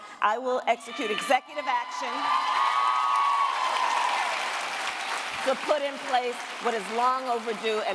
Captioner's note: cheers, applause